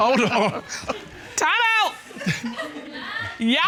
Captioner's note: chuckles